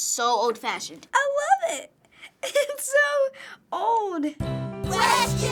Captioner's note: giggles